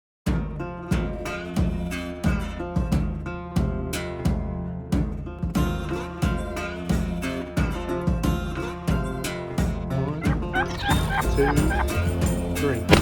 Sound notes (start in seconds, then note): 0.3 lighthearted guitar music; 9.9 gobble sound